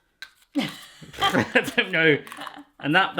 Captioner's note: laughing